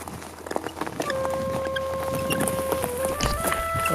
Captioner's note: tyres squeaking